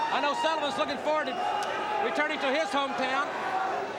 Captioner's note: crowd chatter